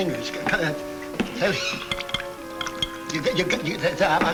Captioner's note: Danny stutters